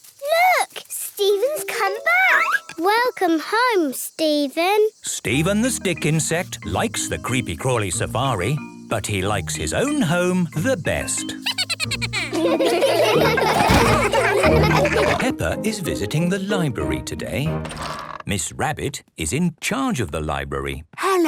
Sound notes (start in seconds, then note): 11.4 Steven giggles; 13.3 all laughing; 21.0 whispering